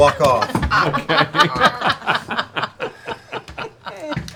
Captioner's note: laughter